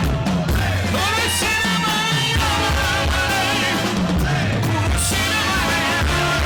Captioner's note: Don speaking in foreign language